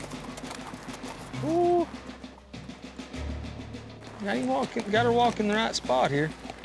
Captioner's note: hoofbeats